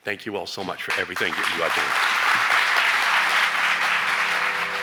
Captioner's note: audience claps